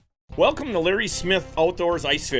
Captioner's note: voiceover